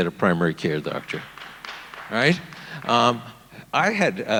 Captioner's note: audience applauding